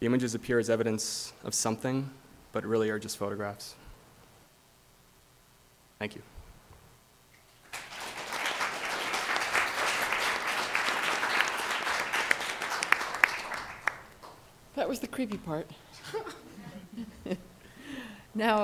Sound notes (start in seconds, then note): 7.6 audience applauds; 16.0 laughs